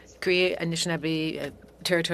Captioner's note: speaking French